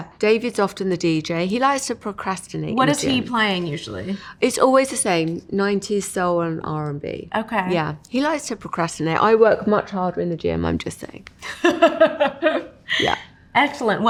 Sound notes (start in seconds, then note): 12.8 laughing